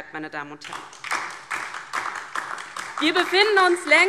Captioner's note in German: Beifall DIE LINKE und SPD